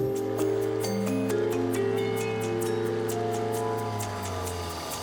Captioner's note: boat engine revving